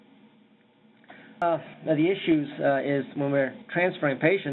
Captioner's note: audio breaks